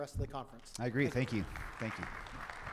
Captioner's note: audience applauding